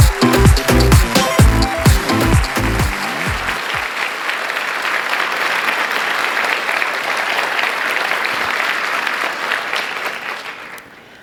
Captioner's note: applause